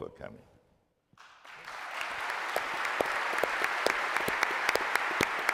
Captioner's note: applause